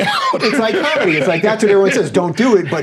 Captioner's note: laughing